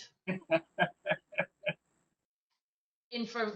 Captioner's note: laughing